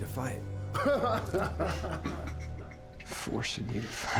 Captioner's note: laughing